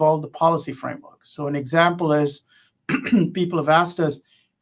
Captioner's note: cough